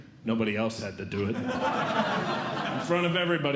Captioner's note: audience Laughing